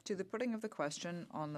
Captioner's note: speaking in French